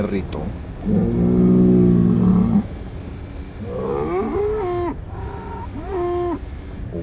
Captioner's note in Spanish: Bramido de toro se escucha a lo lejos